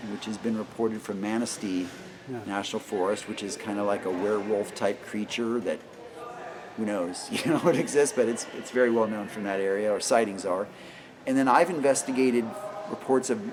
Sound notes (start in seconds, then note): 7.3 laughing